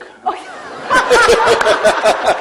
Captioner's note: laughter